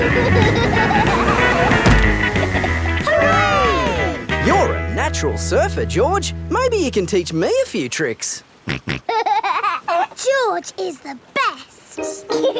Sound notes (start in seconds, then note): 0.1 laughing; 9.0 snorts and laughs